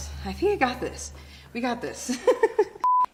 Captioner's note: laughing